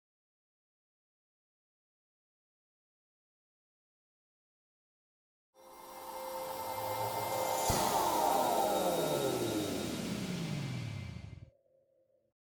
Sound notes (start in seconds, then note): 6.0 loud swooshing; 6.0 loud zooming